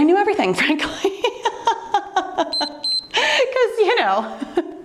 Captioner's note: timer beeps